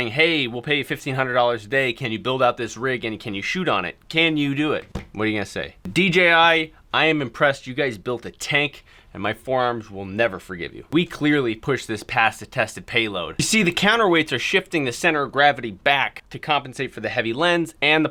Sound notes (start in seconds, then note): none